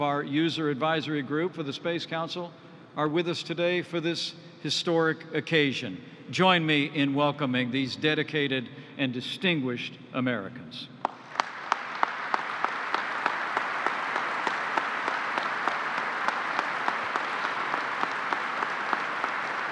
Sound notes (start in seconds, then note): 10.5 applause